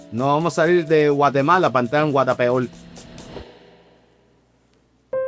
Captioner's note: speaker speaking in Spanish